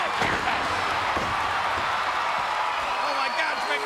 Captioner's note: crowd cheering